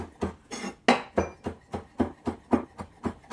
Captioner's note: knife chopping